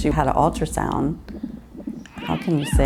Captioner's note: baby coos